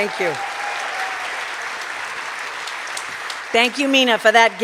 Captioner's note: cheers and applause